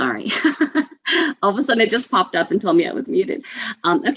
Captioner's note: laughs